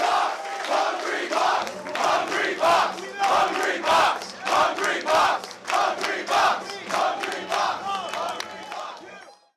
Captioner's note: crowd cheering, "Hungrybox!"